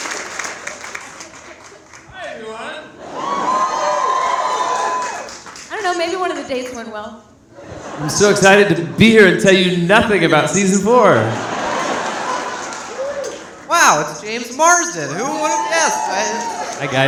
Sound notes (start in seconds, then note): 2.9 audience cheering; 10.9 audience laughing